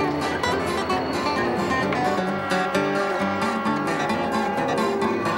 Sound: whistle blowing

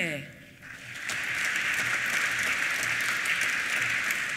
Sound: applause

